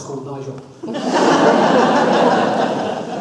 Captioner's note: audience laughs